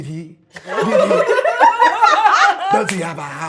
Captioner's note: laughing